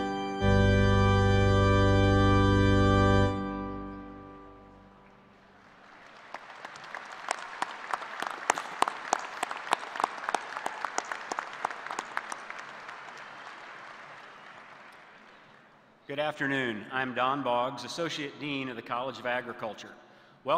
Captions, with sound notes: [ APPLAUSE ] >>> Good afternoon. I am Don Boggs, Associate Dean